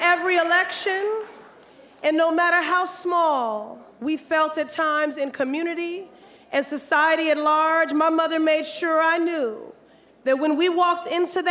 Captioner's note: applause